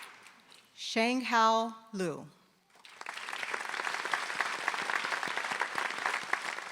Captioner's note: applause